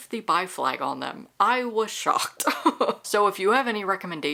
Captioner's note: laughter